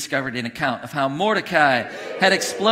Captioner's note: congregation cheering